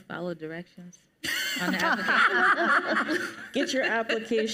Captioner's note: panelists laugh